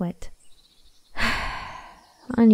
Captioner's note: sigh